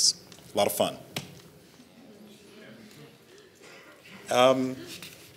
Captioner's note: audience laughs